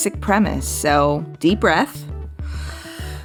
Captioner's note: takes a deep breath